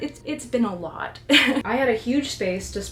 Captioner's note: laughs